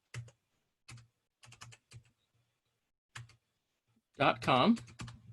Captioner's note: keyboard clicking